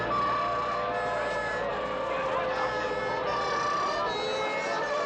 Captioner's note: siren Continues